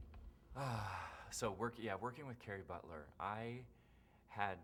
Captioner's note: sighs